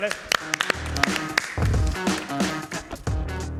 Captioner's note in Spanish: Aplausos